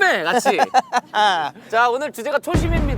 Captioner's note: laughing